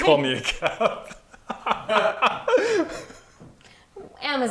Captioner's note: laughing